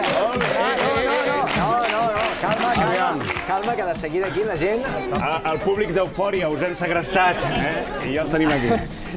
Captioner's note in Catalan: ovacions